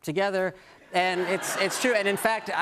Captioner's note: laughter